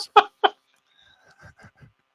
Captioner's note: laughs